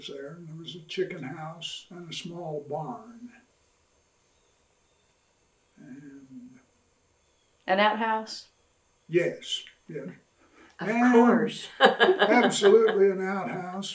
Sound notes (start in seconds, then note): 11.5 laughs